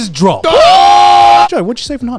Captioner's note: screaming